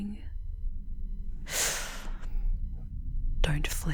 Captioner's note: sharply inhaling as she grasps your face again